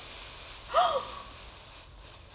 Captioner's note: eerie mist noises; gasp